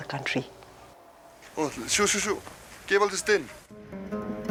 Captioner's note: speaking Bhutanese